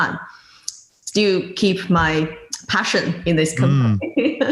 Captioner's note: laughing